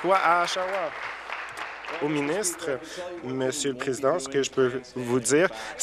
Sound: applause

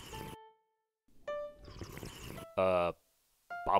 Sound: slurping

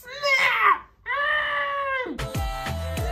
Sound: muffled scream

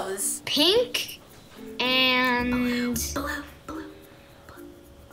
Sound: whispers

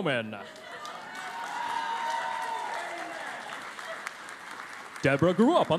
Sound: cheering and Applause

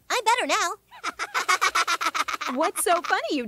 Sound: Kyle and Stan laughing

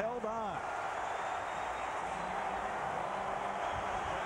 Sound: cheering, applause

